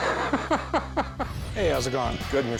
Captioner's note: laughs